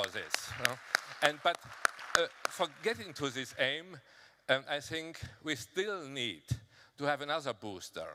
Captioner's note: applause